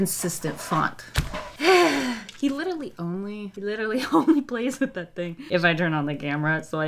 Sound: sighs

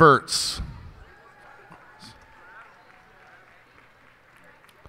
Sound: cheers and applause

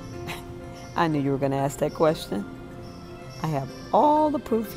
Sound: chuckles

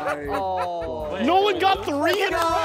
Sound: contestants laughing

